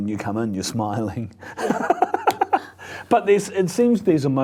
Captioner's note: laughs